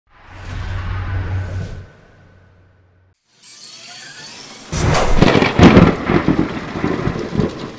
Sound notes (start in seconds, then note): 0.1 audio logo; 4.7 lightning, thunder